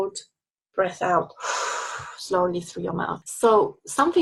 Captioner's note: exhales